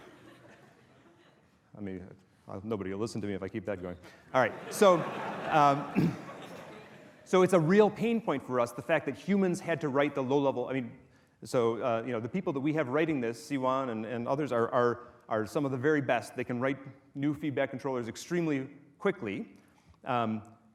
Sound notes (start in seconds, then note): 0.0 laughter from audience at video clip; 4.5 more laughter